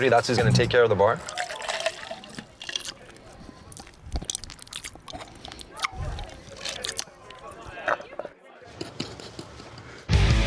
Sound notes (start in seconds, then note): 2.5 slurping